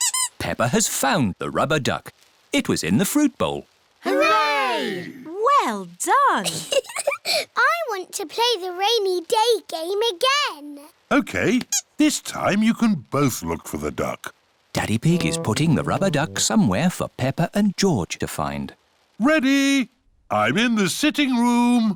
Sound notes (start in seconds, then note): 6.5 laughs